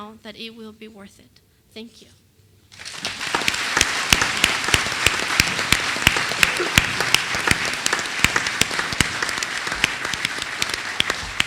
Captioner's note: applause